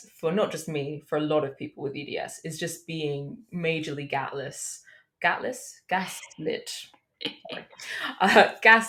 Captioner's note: chuckles